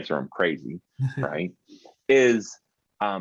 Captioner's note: chuckling